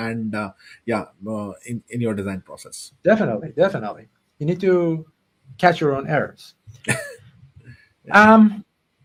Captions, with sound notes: and, yeah, in your design process. - Definitely, definitely, you need to catch your own errors. - (laughs) Yeah.